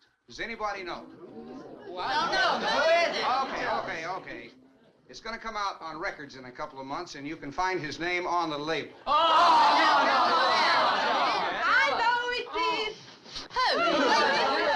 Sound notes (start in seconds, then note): 9.0 crowd groaning